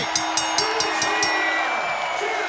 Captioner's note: bell ringing